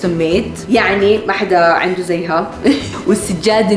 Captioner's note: laughs